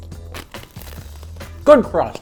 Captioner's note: pizza crunching